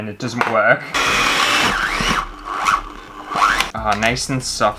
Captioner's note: electric Whisk Struggling